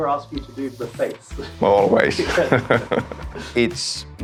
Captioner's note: laughs